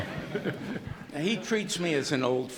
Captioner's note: laughter